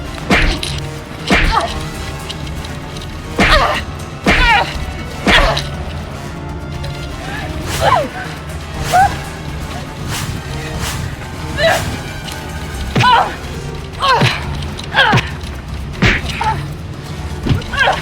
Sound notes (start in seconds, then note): 0.0 Macy grunting; 0.0 hammer thudding; 0.2 strikes thudding; 0.3 Kody grunting; 7.1 hatchet whooshing; 7.7 Macy gasping; 12.9 Kody grunting; 12.9 punches thud